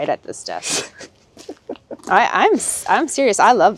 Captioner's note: chuckling